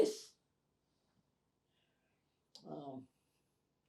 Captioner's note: pauses 8 seconds